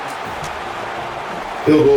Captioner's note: crowd Noises